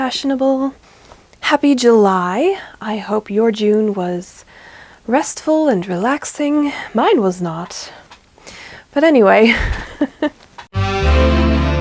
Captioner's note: laughs; sultry jazzy intro music